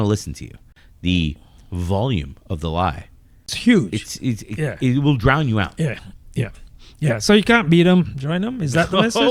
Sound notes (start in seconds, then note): 3.4 uh